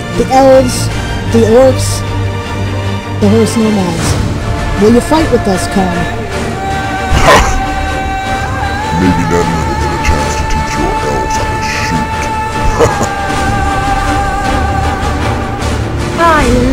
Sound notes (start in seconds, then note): 12.5 laugh